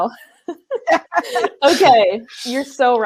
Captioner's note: laughs